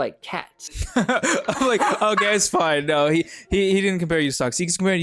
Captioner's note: both laughing loudly